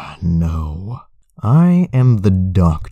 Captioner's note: sigh